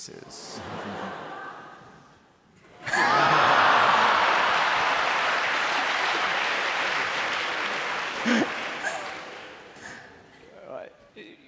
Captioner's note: laughter